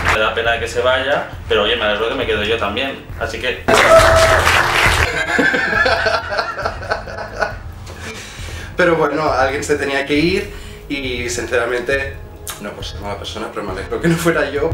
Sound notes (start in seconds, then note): 3.7 applause; 3.8 laugh